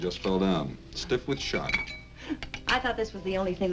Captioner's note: Doris laughs